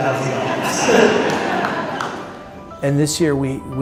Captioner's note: laughter